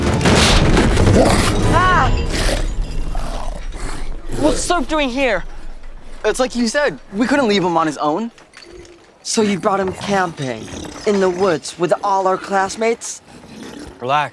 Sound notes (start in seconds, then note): 0.6 yells